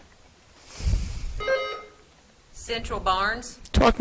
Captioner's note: buzzer trills